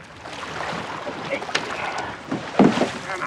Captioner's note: grunting